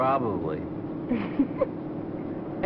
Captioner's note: giggles